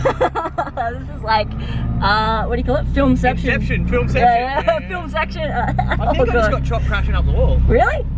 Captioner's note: laughs; ugh